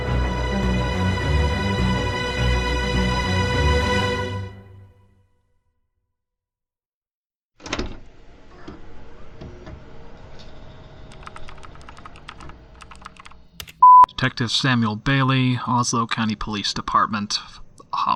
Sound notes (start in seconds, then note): 7.3 A/C fan noise; 11.1 keyboard keys clicking